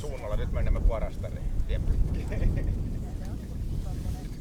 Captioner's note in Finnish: Keskustelua taustalla